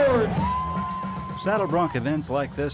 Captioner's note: crowd cheering